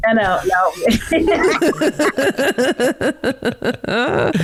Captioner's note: all laughing